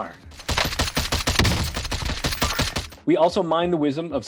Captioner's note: gunshots